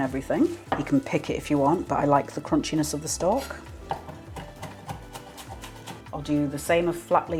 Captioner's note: chop chop chop